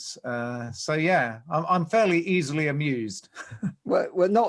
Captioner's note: laughs